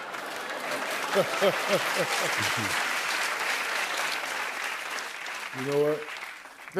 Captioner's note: laughter; applause